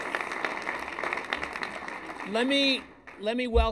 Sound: applause

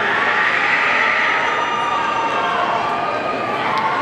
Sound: audience cheering

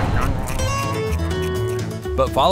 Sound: beaver chewing

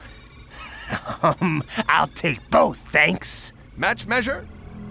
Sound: laughs

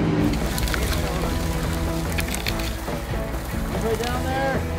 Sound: twigs crackling

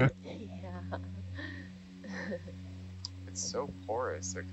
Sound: laughing

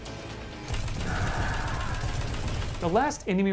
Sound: screaming

